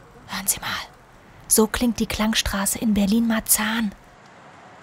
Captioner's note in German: flüstert